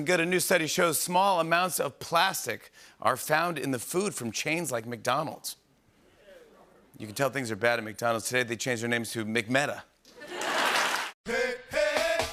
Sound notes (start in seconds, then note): 6.0 murmuring; 10.1 laughter and applause